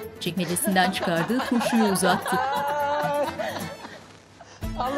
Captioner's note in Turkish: Gülme sesleri